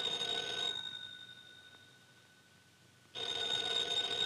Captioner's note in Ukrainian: дзвінок